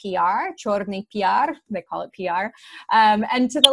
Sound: speaks in foreign language

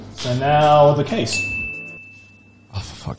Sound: ding

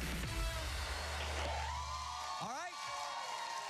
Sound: cheers and applause

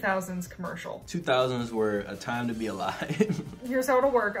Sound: laughs

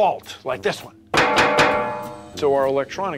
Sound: banging on metal

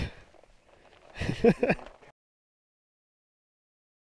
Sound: laughs

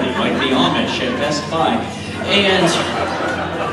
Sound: audience laughs

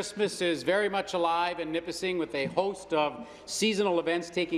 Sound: speaking in French

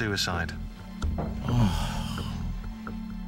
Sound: groans

